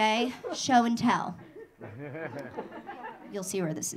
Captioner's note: audience laughing